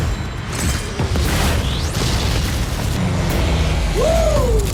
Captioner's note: explosions